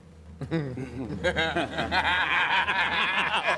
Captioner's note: laughter